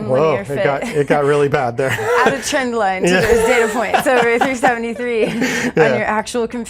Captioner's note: laughs